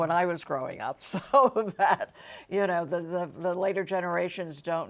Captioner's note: laughs